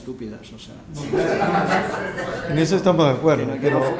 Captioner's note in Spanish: risas